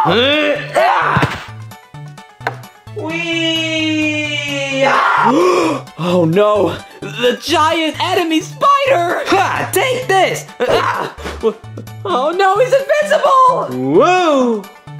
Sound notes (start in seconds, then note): 0.0 Junior screams; 2.0 Junior imitates airplane; 2.4 wood taps; 4.8 gasps; 10.1 whimpers